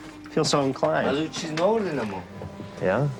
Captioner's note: pilot speaking in a foreign language